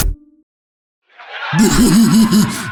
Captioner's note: laugh track; laughs